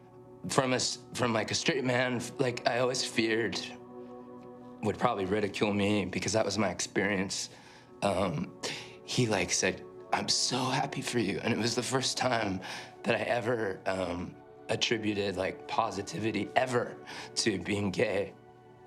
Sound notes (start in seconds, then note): none